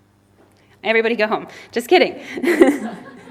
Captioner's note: laughs